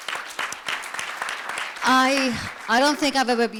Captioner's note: applause